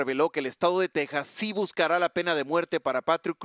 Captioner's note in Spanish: HABLAN EN INGLéS